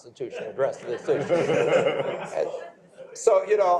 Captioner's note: laughter